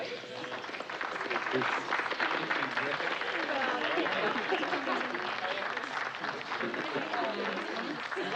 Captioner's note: applause